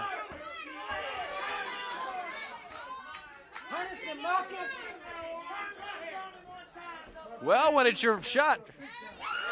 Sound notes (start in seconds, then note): 2.0 crowd chatter; 6.2 crowd cheering; 8.0 crowd chatter